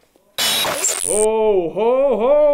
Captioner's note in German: Technische Störgeräusche